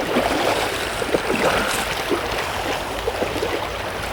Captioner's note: splashing as they wade